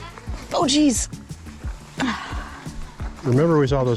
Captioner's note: sighs